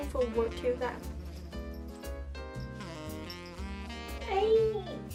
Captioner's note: jazz music; jingling